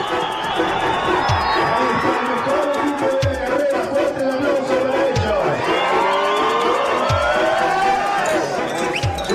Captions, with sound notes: A big hand for the winning team, [crowd cheering]